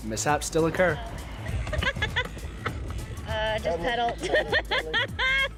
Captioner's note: laughs